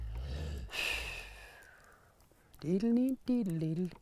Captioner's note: sighs